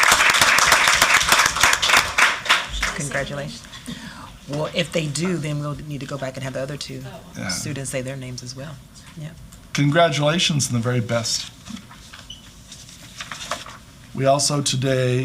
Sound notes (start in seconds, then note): 3.0 applause